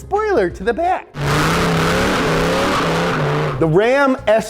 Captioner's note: car revving